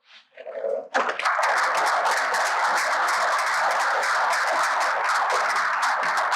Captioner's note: applause